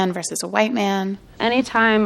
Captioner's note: soundbite of tv show, "the bachelorette"